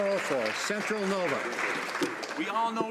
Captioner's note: some Applause